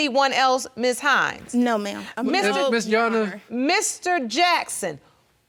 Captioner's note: stuttering